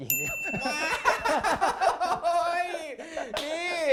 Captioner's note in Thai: เสียงหัวเราะ